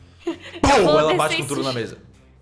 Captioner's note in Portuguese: pow